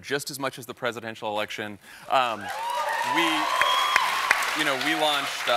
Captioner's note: applause